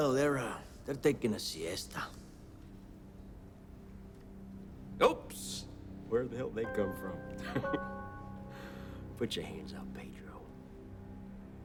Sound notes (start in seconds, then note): 7.4 laughs; 11.4 suspenseful music